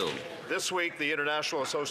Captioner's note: some Applause